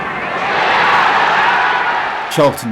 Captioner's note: crowd roaring